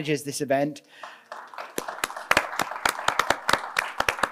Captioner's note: applause